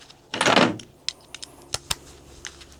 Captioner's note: clanking